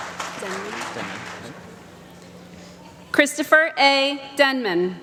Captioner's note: applause